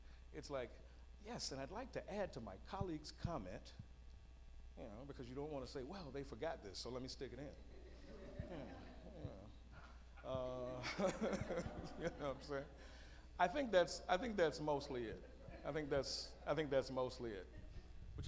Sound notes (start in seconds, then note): 7.8 laughs